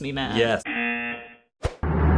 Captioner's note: buzzer